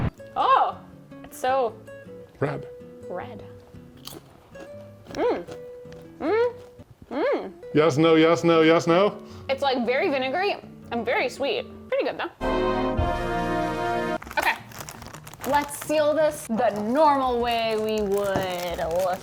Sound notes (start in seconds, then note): 4.0 chip crunching; 12.8 light music